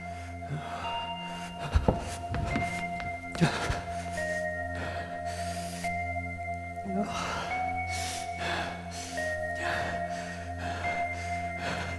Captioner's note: Jonathan: Panicked, heavy breathing